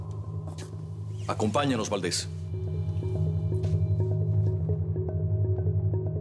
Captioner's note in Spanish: Sonido de puerta al abrir